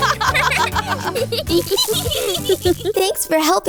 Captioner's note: laughs